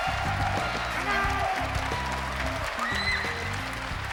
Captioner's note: cheering continues; cheering and clapping; cheering